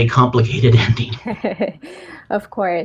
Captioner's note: laughs